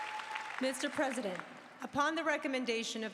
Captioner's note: applause